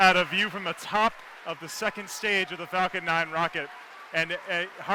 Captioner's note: cheers and applause